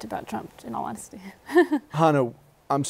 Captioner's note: laughs